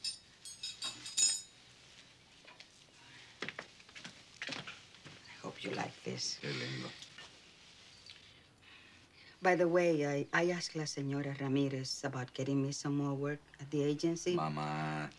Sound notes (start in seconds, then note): 5.4 speaking spanish